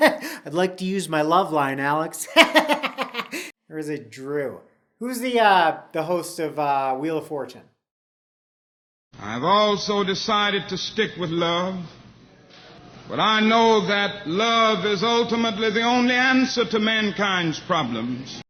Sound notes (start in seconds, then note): 0.0 laughs; 2.2 laughs